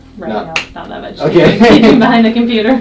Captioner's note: laughs